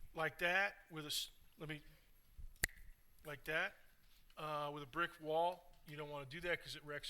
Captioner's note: snaps fingers